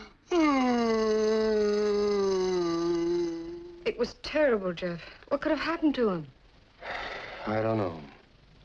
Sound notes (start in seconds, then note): 3.9 suspira